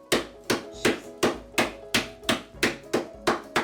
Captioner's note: bangs